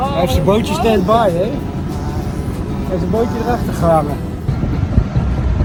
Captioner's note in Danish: Hollandsk snak vi ikke forstår